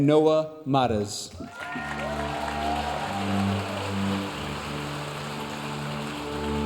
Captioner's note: audience cheering and applauding